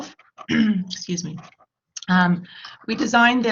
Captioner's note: clears throat